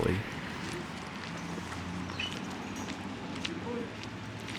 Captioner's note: nearby traffic